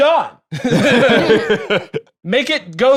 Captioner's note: laugh